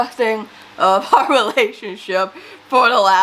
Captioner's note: laughs